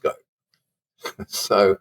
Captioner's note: chuckle